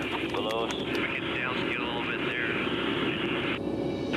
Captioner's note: radio chatter